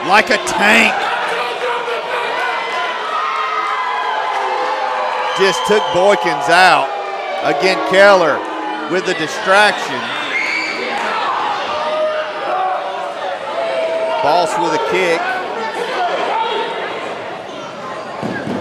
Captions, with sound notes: like a tank. Just took Boykins out. Again Keller, with the distraction. (crowd booing) Boss with a kick. (crowd yelling)